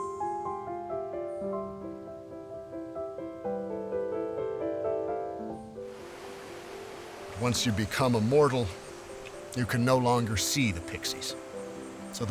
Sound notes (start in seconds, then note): 0.0 bright music; 5.8 waterfall flowing